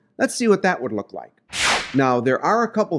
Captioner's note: air whooshing